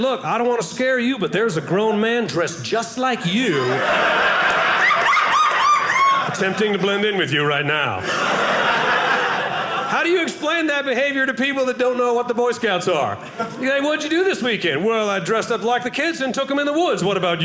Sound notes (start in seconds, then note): 3.2 audience laughing